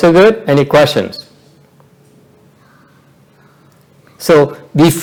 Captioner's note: silence